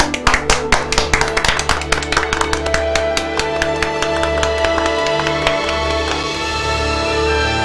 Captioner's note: clapping